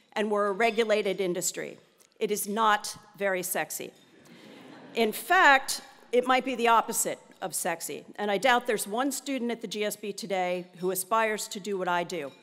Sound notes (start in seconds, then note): 4.2 laugh